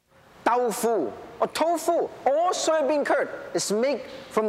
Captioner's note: speaking Japanese